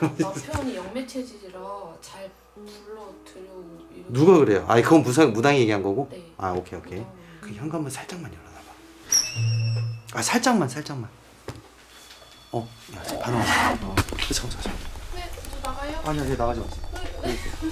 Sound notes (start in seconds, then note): 9.1 the sound of opening the door; 12.1 The sound of the choco-pie equipment in the computer room